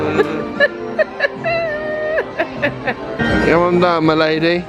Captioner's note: giggling